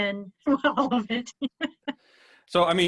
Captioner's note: laughs